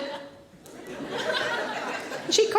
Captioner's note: audience laughing